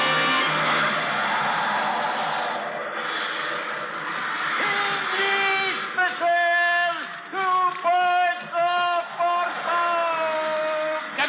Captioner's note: chatter